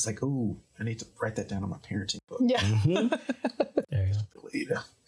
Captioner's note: laughing